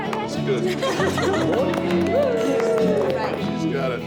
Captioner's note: laughs